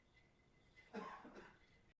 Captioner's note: coughs loudly